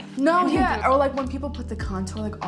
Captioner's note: laughs